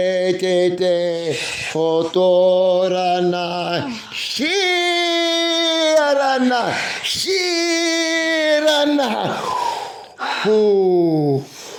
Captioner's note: non-english speech